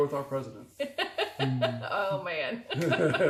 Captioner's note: laughs